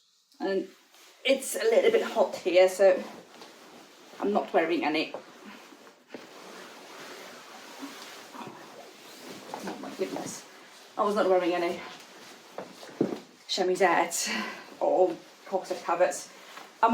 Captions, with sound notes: and it's a little bit hot here, so I'm not wearing any,. (gown rustles) Oh my goodness, I was not wearing any chemisette, or corset covers.